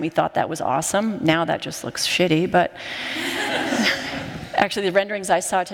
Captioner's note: laughter